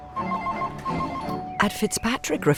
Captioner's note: phone rings